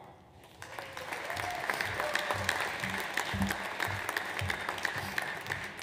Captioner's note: audience applauds